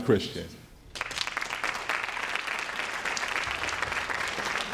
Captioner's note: crowd applauds